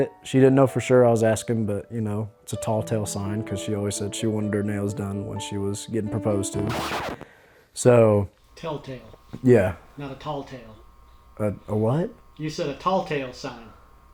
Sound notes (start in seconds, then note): 6.5 record needle scratch